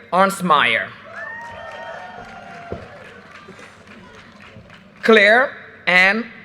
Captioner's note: audience cheers and applause